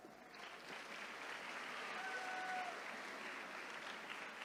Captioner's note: attendees cheering